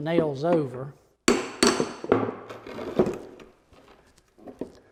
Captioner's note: hammer pounding